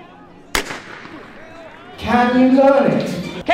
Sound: starter pistol fires

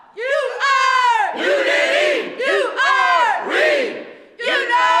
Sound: indistinct chanting

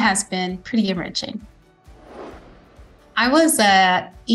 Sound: screen whooshing

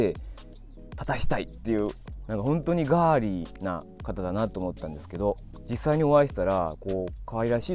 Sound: laughs

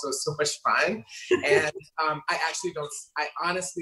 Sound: laughing

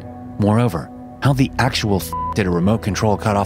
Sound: beep

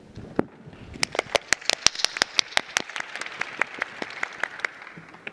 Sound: audience applauding

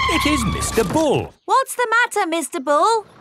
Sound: tires screeching

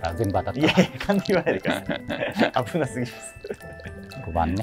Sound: laughing

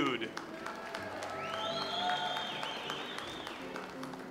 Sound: audience applauds

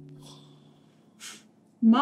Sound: huffs

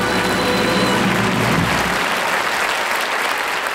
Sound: audience applauding

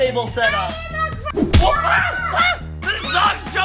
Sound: toy smacks

